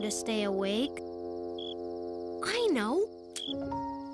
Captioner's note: cricket chirps